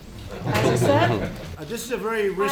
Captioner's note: laughter